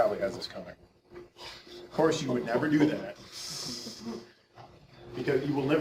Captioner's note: audience snickering